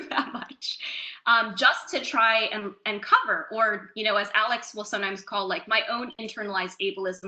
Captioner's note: laughs